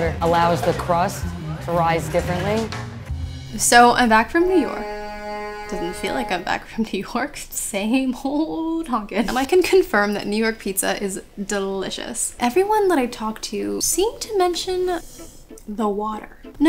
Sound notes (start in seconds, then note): 3.5 horn honks